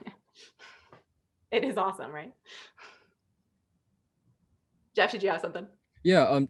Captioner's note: laughter